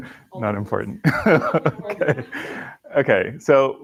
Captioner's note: laughing